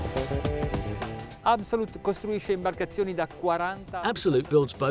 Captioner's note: speaks Italian